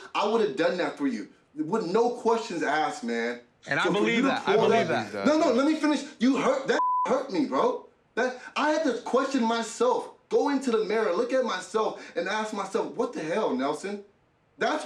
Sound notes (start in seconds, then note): 6.8 beep